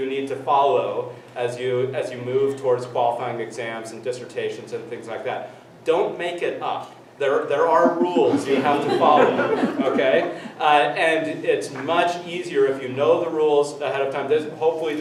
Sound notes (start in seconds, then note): 9.3 everyone laughs